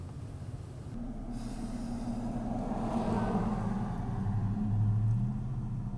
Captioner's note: loud sound of truck going